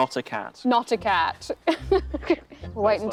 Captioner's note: laughing